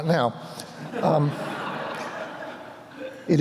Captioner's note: laughter